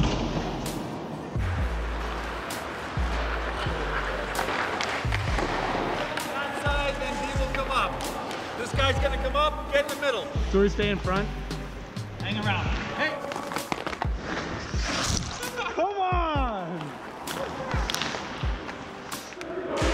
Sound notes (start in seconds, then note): 0.0 thudding; 2.2 skates gliding; 14.6 skates scraping